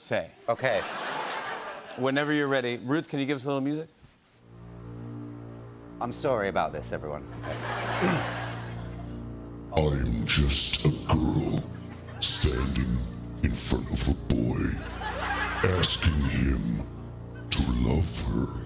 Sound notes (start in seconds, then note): 4.0 sinister music playing; 7.4 laughter; 9.3 deep voice